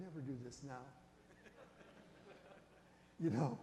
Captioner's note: audience chuckles